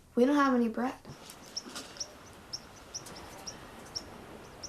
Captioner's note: birds chirping